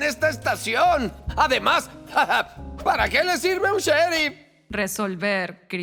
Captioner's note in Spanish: se ríe